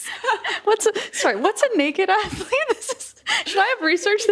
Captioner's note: laughing; laughing